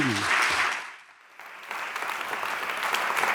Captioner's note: applause